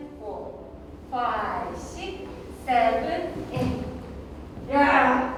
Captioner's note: in English